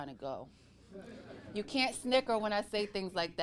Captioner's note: audience laughing